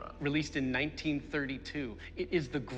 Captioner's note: none